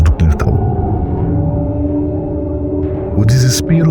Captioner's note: howl